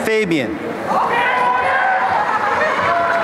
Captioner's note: cheering